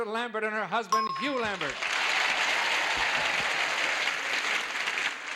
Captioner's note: applause